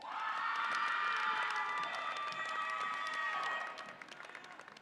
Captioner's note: audience applauds and cheers